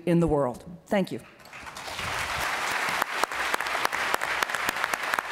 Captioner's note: applause